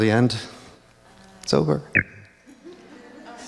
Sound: computer beeps; audience chuckles

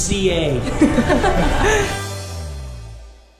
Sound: all laugh

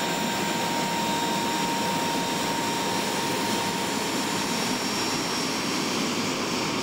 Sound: jet engine noise

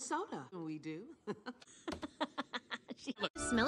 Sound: laughs

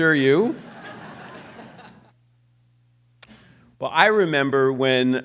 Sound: audience laughs

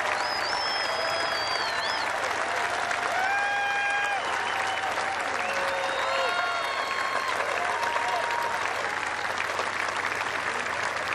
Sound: cheers and applause

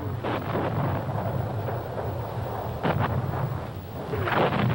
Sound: explosions booming

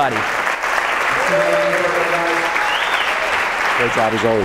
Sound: audience applauds

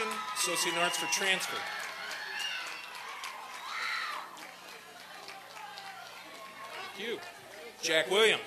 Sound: applause and cheering

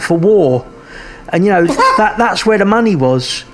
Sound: laughs

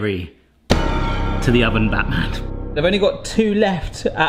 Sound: dramatic beat; slams

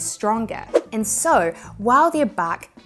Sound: graphics whooshing

